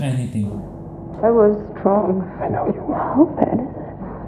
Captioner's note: coughs